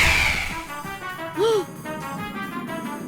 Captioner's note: audible gasp